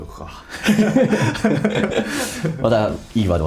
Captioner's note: laughs